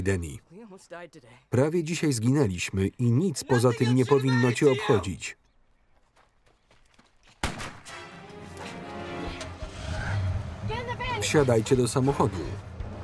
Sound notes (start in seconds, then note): 7.4 gunshot